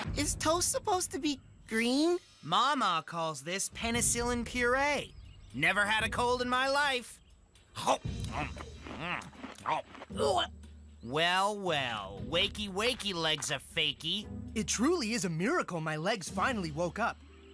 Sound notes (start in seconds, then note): 8.1 Scott Chomping; 10.1 Gwen Gagging